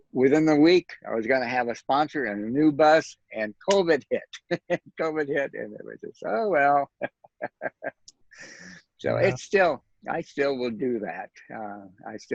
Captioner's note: laughs